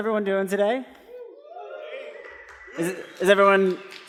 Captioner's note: cheering